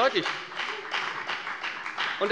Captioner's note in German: Beifall bei der FDP